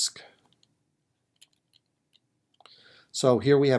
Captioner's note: typing